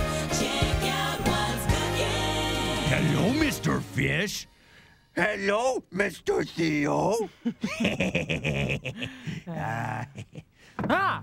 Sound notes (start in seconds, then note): 4.5 changes voice; 7.4 both giggle